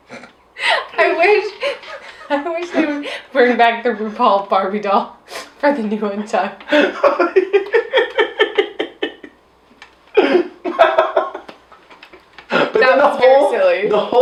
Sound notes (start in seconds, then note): 0.0 laughing